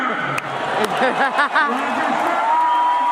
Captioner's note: cheering